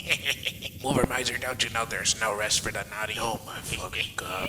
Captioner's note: laughs